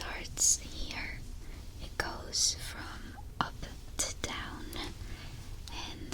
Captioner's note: none